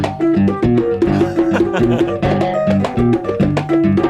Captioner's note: man chuckles